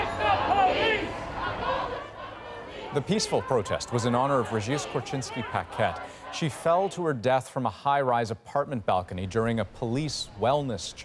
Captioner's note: chanting